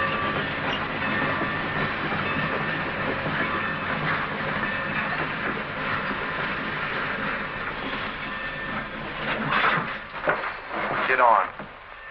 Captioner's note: bell